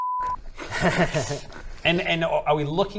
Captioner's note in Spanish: risa siniestra